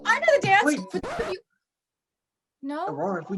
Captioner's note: music stops